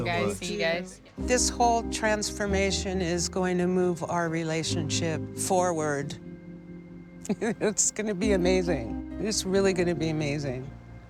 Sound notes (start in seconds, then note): 7.2 laughs